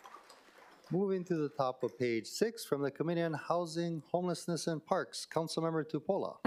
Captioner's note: applause